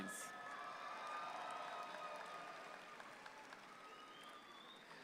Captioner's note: audience applauds